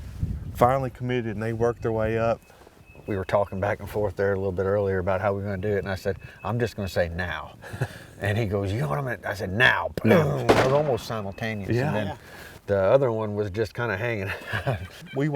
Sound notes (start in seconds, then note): 10.4 gunshots; 14.2 laughs